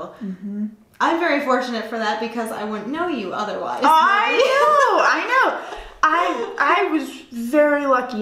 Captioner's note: laughter